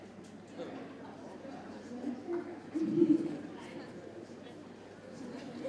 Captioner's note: indistinct audience chatter